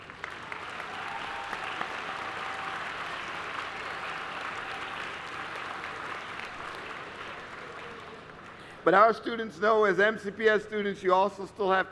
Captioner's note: applause